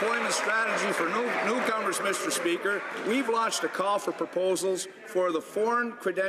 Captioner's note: some Applause